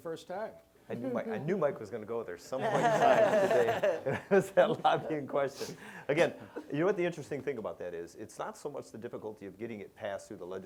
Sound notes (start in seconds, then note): 2.6 laughter